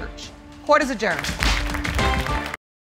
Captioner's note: audience applauds